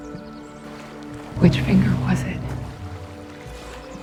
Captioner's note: voiceover